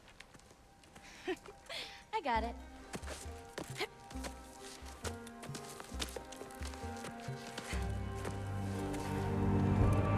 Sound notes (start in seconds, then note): 0.6 laughs